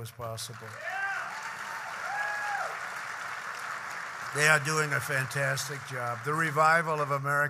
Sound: applause

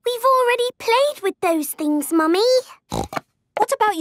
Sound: snorting

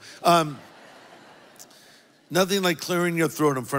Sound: congregation laughs

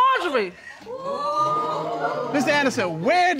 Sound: audience exclaiming

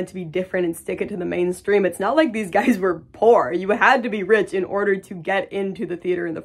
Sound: laughs

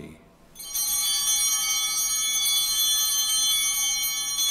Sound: bell ringing; bell continues ringing

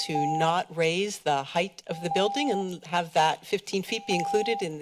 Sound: beeping

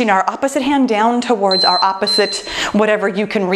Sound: timer beeps

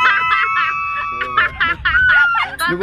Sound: hahahaha

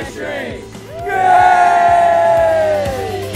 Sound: cheers

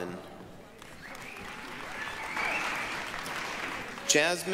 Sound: applause, cheering

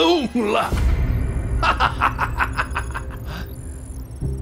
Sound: laughing

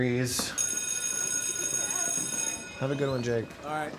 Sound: bell rings

